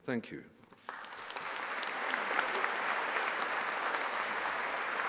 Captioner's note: audience applauding